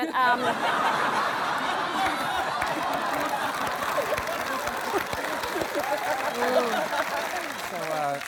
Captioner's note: laughter and applause